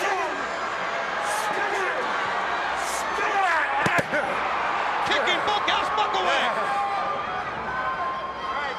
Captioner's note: crowd cheering